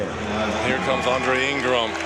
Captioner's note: crowd cheering